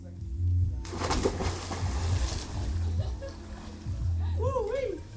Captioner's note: water splashing